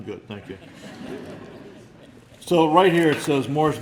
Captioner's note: laughter